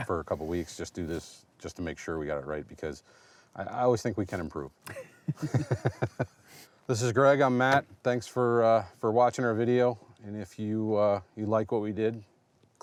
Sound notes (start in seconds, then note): 4.8 chuckles